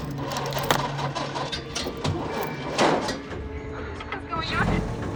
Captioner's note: engine sputtering